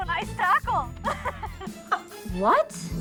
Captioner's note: laughs